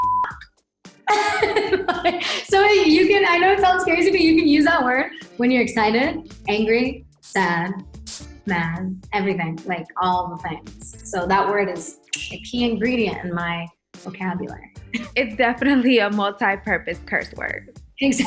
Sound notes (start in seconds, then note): 0.0 beep; 1.1 laughing